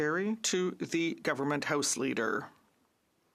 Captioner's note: speaking French